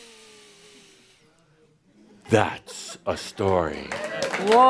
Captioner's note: applause